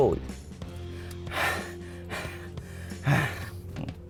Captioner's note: exhausted